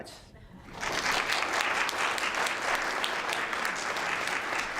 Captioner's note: applause